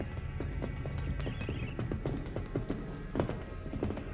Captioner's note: scanner bleeps